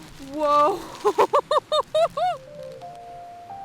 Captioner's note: gasps